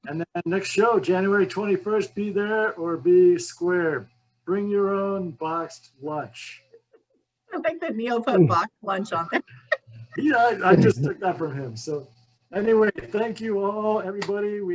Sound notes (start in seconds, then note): 9.0 laughs